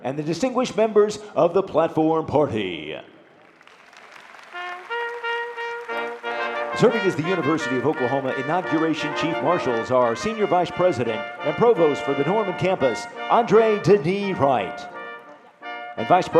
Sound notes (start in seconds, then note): 3.2 audience applauding; 4.8 soft trumpet music